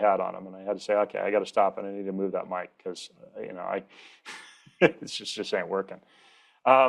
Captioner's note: laughs